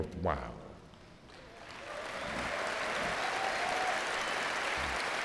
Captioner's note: crowd cheering